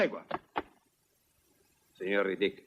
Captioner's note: stamps floor